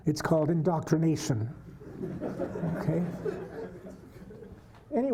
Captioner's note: laughter